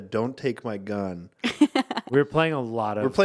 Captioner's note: laughing